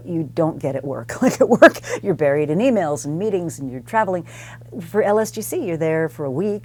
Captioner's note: laugh